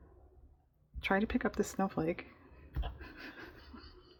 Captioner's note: laughs